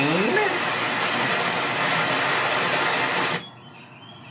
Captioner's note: rain spattering